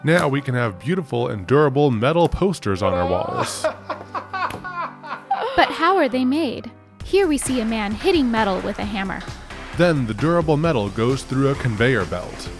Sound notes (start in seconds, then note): 2.8 laughing